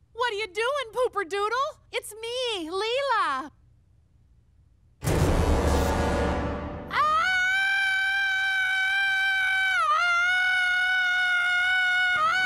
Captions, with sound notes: What are you doing Pooper Doodle? It's me, Leela! (intense music) (Leela screams) (Leela screams)